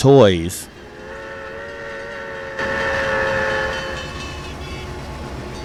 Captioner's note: steam engine horn in the distance